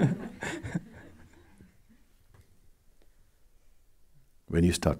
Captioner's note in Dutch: gelach